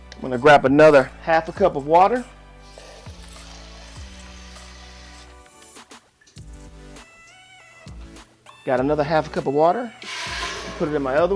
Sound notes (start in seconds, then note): 2.8 water pours from faucet